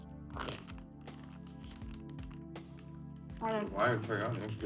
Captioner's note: food crunching; bag rustling